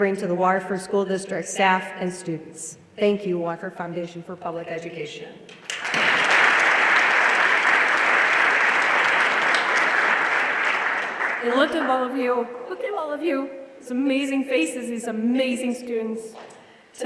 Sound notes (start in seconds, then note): 5.6 everyone applauding